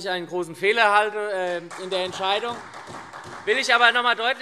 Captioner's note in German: Beifall SPD